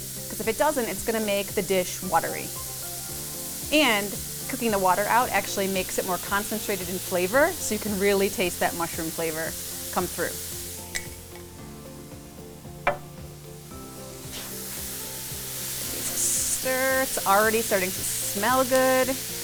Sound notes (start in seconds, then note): 14.0 oil sizzling